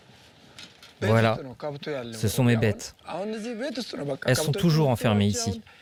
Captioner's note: speaking foreign language